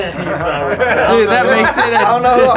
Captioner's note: group laughter